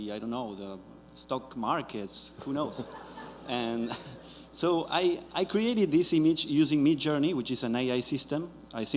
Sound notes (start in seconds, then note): 2.6 audience chuckles